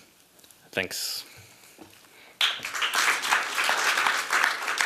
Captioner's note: applause